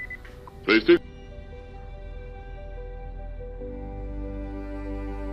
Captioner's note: radio